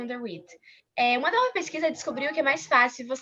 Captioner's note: non-english